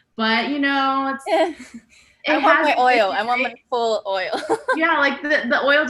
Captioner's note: laughs